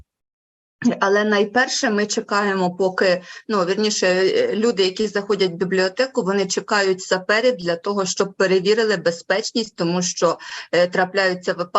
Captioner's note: foreign Language Spoken